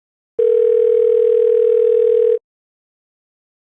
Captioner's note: phone ringing